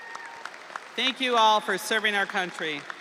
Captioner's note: audience cheering; audience applauding